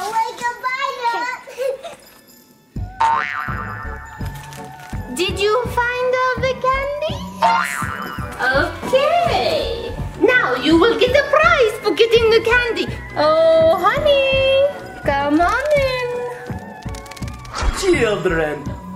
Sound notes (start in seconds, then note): 1.4 laughs; 3.1 bounces